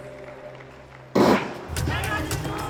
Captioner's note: gunshot